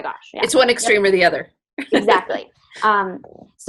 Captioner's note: laughs